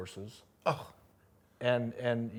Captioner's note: scoffs